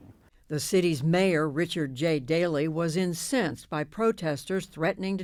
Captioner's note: voice-over